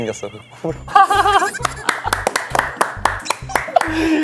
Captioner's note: haha